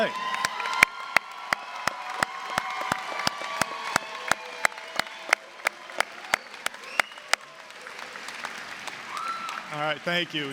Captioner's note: applause, cheering